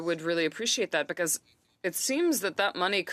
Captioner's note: speaking French